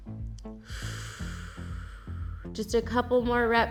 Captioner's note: exhales; inhales